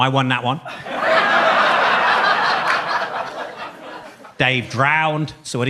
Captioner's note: audience laughs